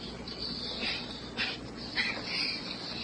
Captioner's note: sniffs, coughs